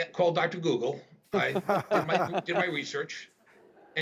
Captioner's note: man laughing